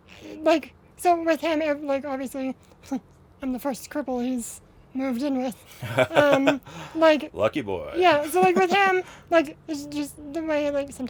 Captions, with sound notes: Like so with him like obviously I'm the first cripple he's moved in with [Laughs] Lucky boy. Yeah. So like with him, like it's just the way,